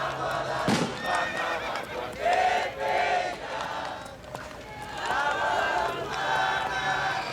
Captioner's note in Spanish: cohetes; relinchos